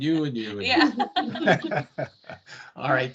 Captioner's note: laughing